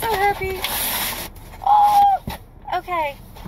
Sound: excited squeal

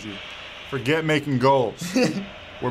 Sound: laughing

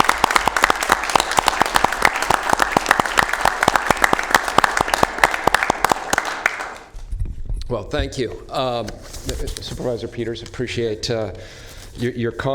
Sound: applause

